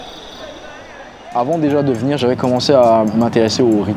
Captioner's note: foreign language